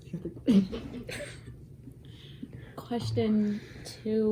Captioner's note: laughing